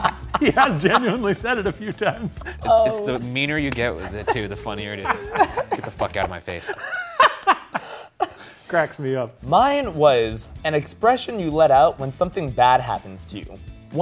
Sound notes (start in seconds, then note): 0.0 laugh; 6.6 laugh